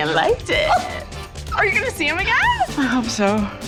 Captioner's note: squeals; shrieks excitedly